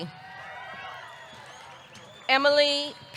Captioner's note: audience cheering